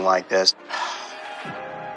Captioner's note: sighs